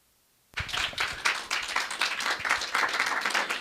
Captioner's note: clapping